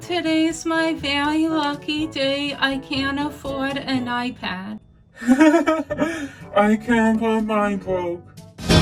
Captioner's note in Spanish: laughing